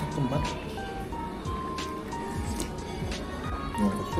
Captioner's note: slurp